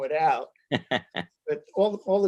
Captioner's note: laughs